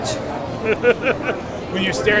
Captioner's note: interviewer laughing